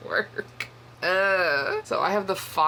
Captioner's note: whinging